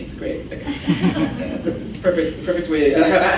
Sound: laughs

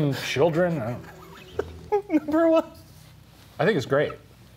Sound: chuckling

